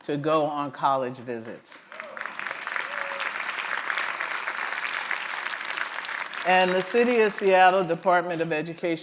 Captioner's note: applause